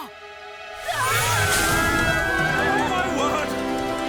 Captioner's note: group screaming